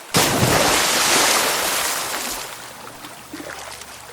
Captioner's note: splashing sound